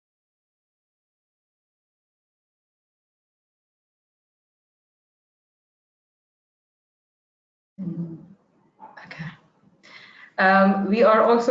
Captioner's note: sound cuts out 0:02:03